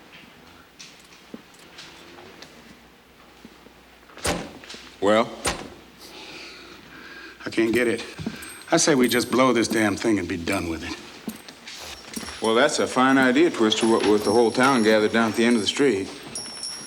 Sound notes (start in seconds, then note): 4.2 door thuds